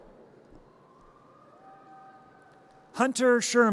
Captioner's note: audience cheers